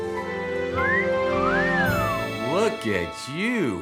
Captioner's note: Craig whistling